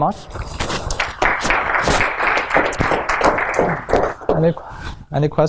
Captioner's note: applause